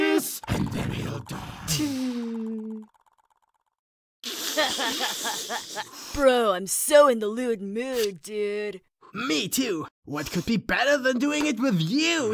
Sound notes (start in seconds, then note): 4.3 chuckles; 4.3 laughs